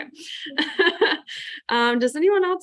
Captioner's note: laughs